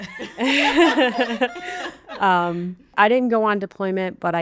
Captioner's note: laughing